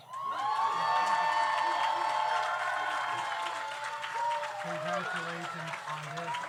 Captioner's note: audience applauds; audience cheers